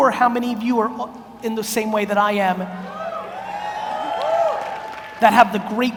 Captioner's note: audience cheers